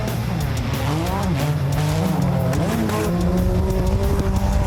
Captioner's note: music, cars revving